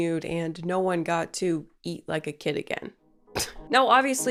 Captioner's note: chuckles